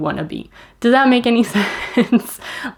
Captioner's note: laughs